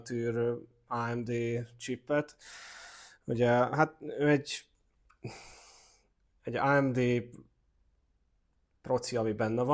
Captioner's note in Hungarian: sóhajtás